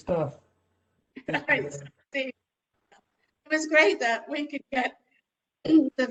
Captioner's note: laughter